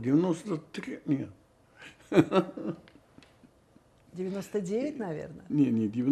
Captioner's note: laughing